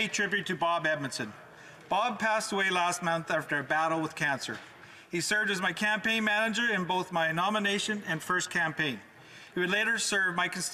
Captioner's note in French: voix de l'interprète